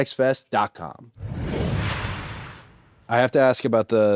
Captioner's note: logo whooshes